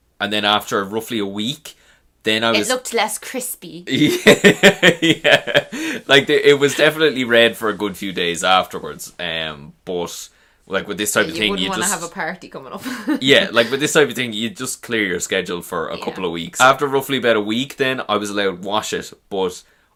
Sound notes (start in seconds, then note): 3.9 laughs; 12.8 chuckles